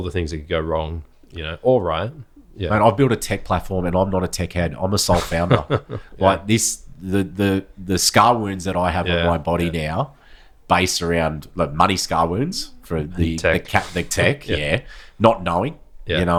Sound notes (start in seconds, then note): 5.0 laughing; 12.5 laughs